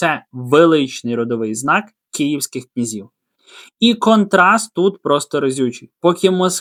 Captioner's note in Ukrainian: сопіння